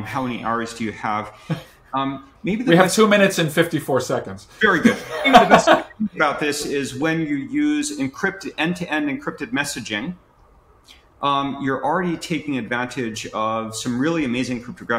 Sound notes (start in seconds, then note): 4.8 laughs